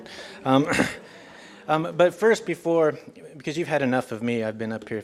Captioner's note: cough